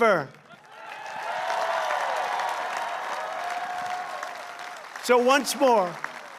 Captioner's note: applause